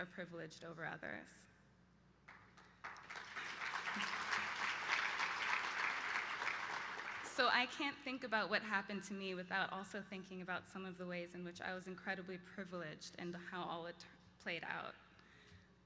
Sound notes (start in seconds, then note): 2.2 applause